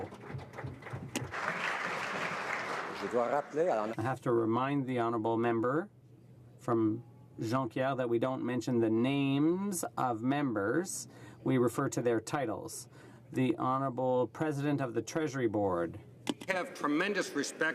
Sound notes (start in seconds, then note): 4.6 some Applause